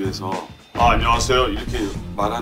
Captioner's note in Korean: 동굴 소리